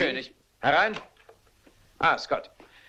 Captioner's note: knocking